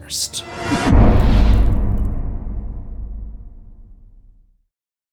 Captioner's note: impact